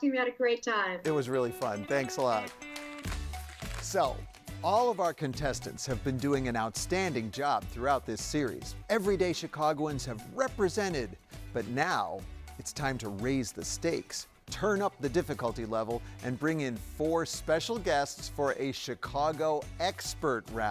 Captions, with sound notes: - It was really fun. (upbeat music) Thanks a lot. (upbeat music) (paper rustles) So, all of our contestants have been doing an outstanding job throughout this series. Everyday Chicagoans have represented, but now, it's time to raise the stakes, turn up the difficulty level, and bring in four special guests for a Chicago expert round.